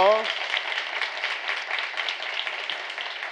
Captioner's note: applause